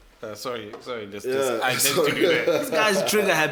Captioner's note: laughs